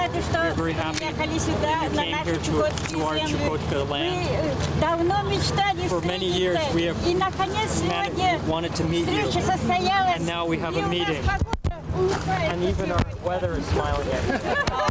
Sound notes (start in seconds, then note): 3.2 non-english; 4.5 non-english speech